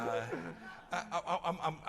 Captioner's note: laughter